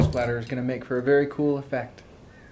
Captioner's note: thuds